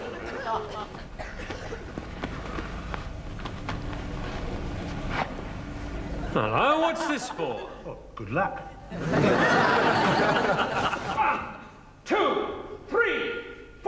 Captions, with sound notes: - Now, what's this for? - Oh. Good luck. (audience laughs) - One, two, three,